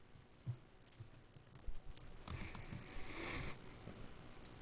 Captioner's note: whispering